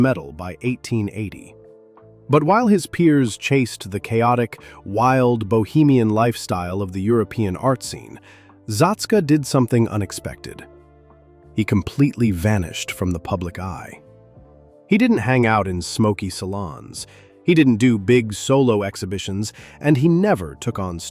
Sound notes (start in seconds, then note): 10.6 thoughtful